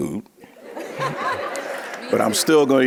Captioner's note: audience laughing